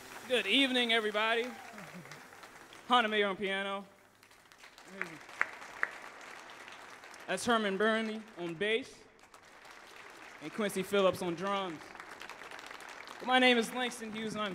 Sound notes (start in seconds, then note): 4.0 audience applauds; 4.9 claps; 9.1 audience applauds